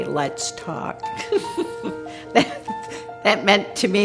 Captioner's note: laughter